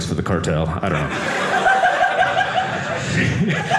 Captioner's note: audience laughing